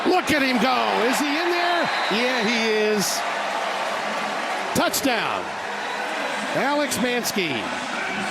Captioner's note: whistle blowing